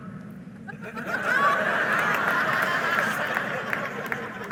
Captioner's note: audience laughing